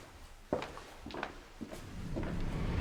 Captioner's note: footsteps tapping; dramatic music